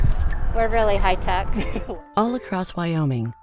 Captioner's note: chuckles